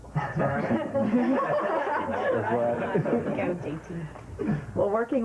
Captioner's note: laughter